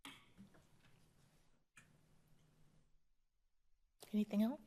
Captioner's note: silence; paper shuffling